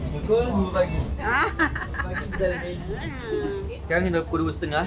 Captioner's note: laugh